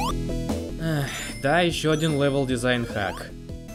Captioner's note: sigh